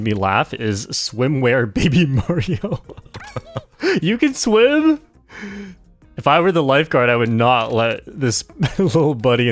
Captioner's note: laughs